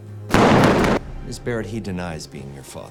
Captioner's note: gunshot blasts